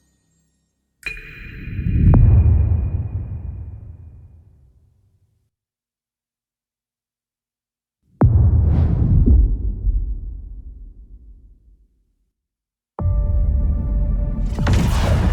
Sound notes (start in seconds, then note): 3.3 dramatic sound; 10.1 dramatic sound